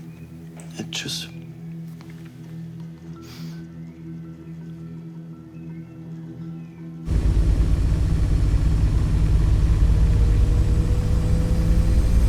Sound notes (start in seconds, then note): 7.0 loud machines